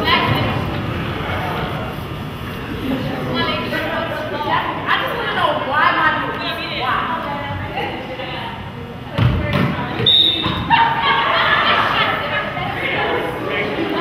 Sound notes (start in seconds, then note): 10.0 whistle blows